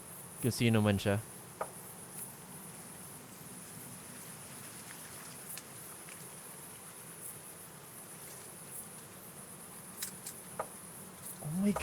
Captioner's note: faint rustling of leaves